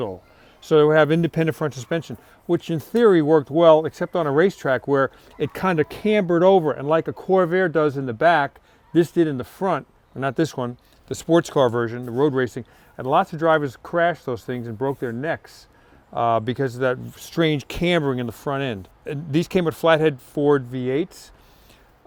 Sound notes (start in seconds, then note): none